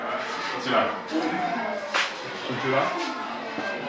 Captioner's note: people chatter